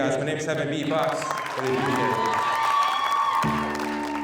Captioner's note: crowd cheers